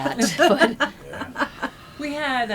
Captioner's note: laughter